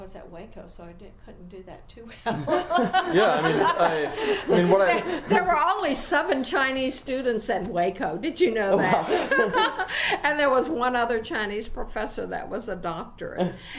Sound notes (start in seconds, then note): 2.2 laughing; 8.2 sarcastically, and still laughing